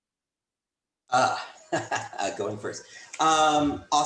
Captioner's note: laughs